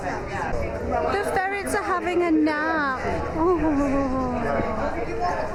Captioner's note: aww/ooh noise